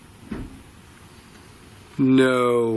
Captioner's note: bang